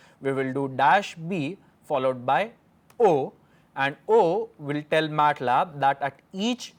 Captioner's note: click